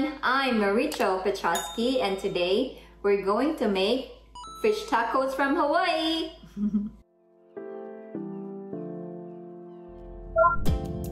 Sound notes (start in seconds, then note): 6.5 soft chuckle; 7.2 computer blip